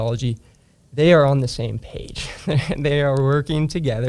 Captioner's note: laughs